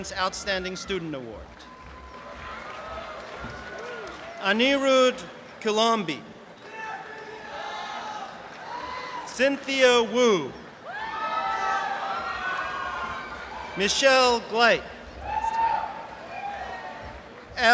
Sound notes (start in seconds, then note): 1.4 applause; 6.9 applause and cheering; 15.3 applause